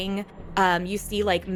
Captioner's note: sound of Wraith sucking